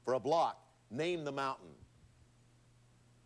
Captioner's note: none